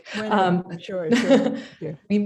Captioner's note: laughs